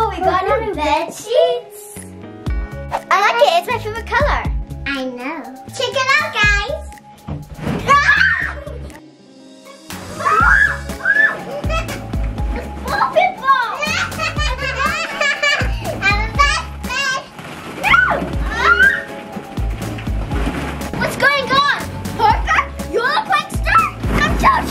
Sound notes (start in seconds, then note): 8.1 scream; 10.1 screaming continues; 13.7 laughing